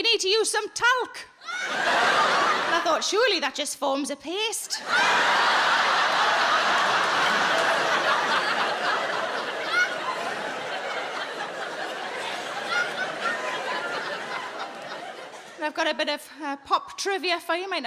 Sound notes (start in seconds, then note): 5.2 audience laughing